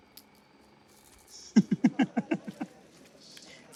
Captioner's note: chuckling